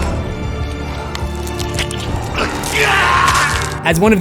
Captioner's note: screams